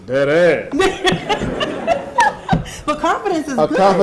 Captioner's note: audience laughing